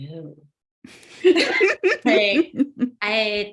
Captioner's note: laughs